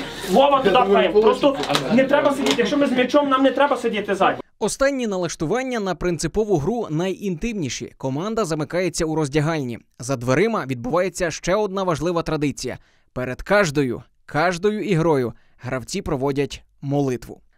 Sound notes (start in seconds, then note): 4.5 voiceover